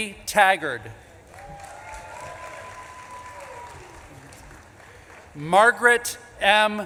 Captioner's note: audience claps and cheers